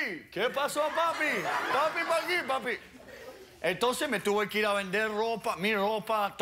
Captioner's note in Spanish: Risas